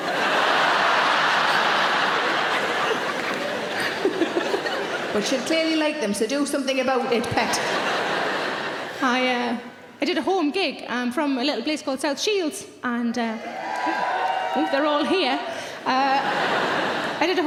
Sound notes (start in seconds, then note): 0.0 audience laughing; 2.0 Sarah laughing; 7.0 audience laughing; 13.4 audience cheering; 15.7 audience laughing